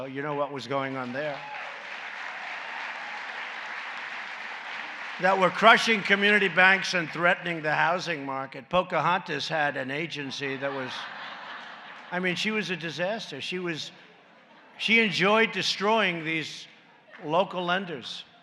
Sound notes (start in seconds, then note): 1.9 applause; 10.4 laughter